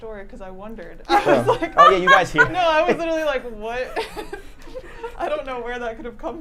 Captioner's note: laughing